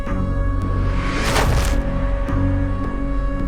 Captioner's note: suspenseful music continues; tarp rustles